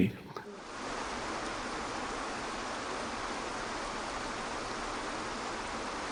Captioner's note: water falling